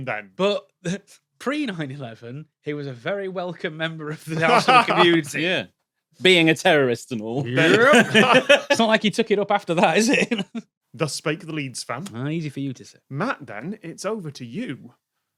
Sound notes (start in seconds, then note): 4.2 laughs; 7.5 laugh; 10.6 giggles